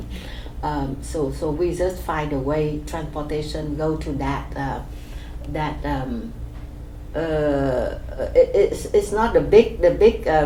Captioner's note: laughs